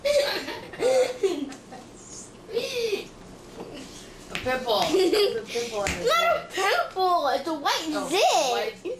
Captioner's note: laughs